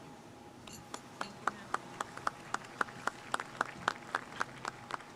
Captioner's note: audience clapping